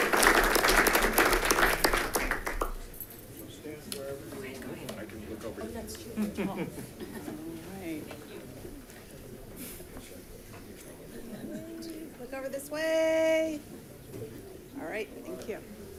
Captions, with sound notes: (audience clapping) (crowd chatting) - I can look over here. - Oh, that's true. (pair laughing) - All right. - Thank you. (crowd chatting) - Look over this way. All right, thank you.